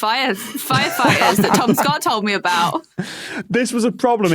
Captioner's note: group laughing